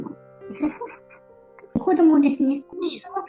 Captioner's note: laughs